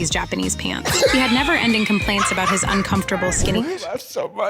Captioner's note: laughing